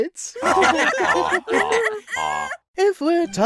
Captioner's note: jury laughing